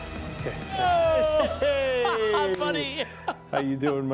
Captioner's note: laughs